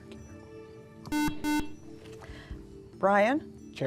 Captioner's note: buzzer